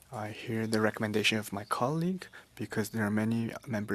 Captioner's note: speaking French